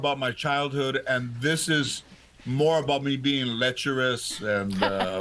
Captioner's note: laughter